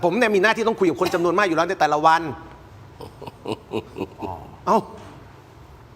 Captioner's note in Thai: เสียงหัวเราะ